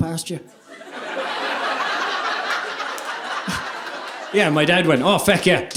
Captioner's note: audience laughing